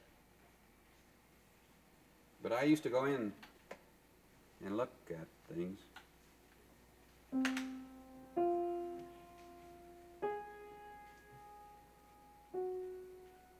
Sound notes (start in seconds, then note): none